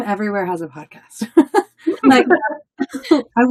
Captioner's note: people laughing